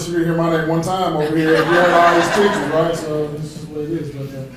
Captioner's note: people clapping